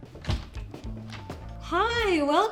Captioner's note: door clicks; door knocks